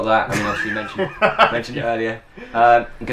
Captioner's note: scoffs